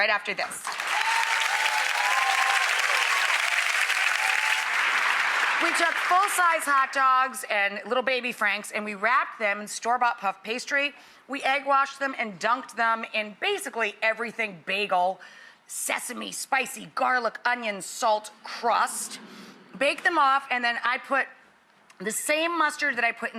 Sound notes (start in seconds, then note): 0.6 audience cheering and clapping